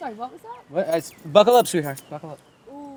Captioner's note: Donald stammers